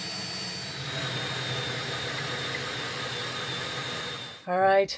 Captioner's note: drill whirring